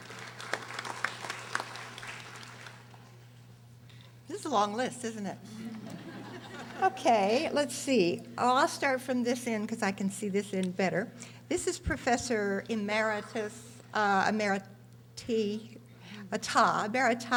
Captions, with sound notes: (audience applauding) This is a long list isn't it? (audience laughing) Okay let's see. Oh I'll start from this end because I can see this end better. This is Professor Amirita,